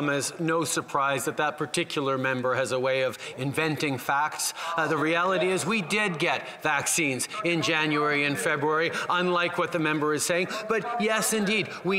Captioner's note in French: voix de l'interprète